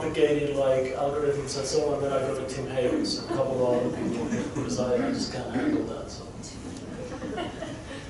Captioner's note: crowd chuckling